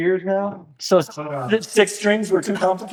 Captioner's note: laughing